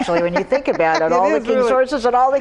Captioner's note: laughs